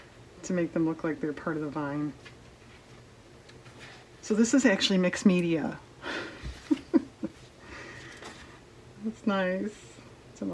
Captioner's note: laughs